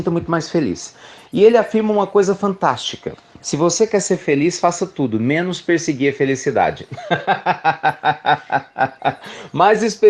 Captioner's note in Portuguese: Risos